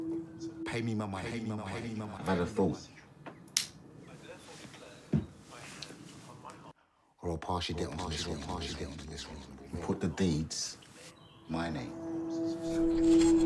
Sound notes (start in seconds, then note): 1.5 voice echoing; 8.9 voice echoing